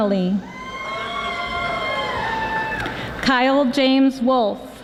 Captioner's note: audience applauding